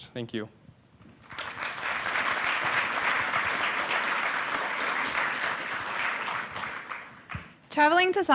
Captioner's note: applause